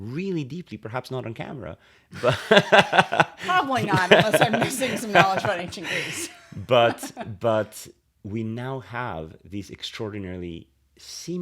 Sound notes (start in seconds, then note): 2.1 laughter